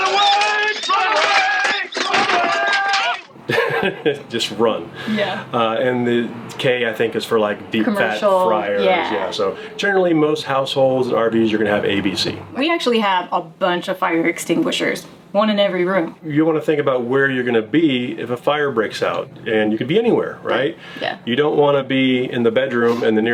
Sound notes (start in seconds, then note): 3.4 laughing